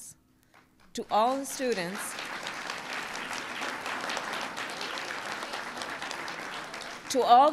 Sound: applause

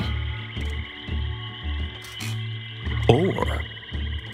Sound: swamp animals chattering continues

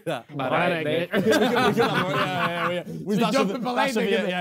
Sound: Sidemen laughing

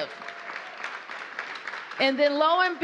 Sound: applause

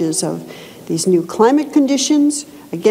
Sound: none

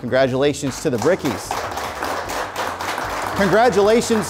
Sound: applause

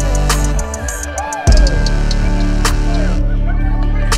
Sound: yelling

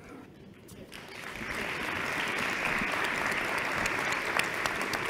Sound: applause

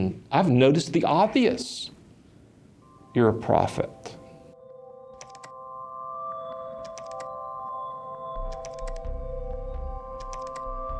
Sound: keyboard clicking

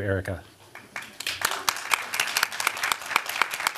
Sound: applause

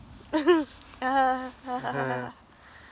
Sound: sarcastic laughter

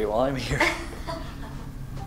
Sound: laughs

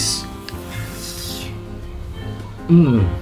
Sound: winces

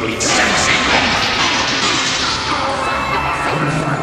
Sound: bang bang bang

